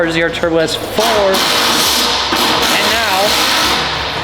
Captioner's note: power tools whirring